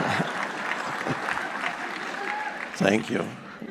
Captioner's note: audience clapping